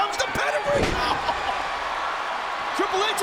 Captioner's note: bodies thud; chuckles; audience cheering and clapping